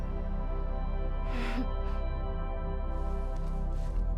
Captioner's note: chuckles